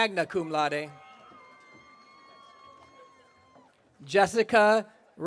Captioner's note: audience cheering